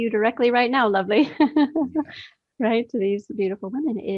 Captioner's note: laughs